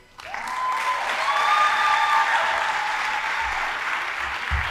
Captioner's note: audience applauding